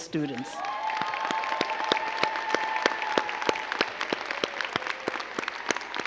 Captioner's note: crowd clapping and cheering